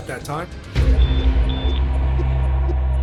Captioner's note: two high-pitched beeps